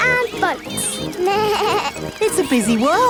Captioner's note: bleats